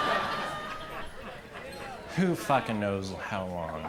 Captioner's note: crowd laughs